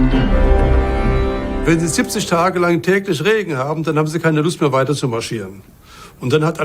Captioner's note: in German